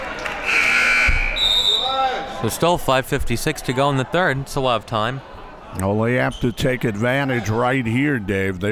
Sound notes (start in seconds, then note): 0.4 whistle blows; 0.4 buzzer buzzes